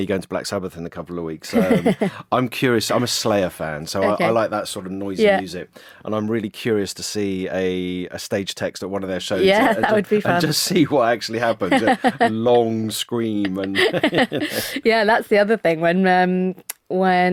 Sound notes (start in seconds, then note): 13.4 laughs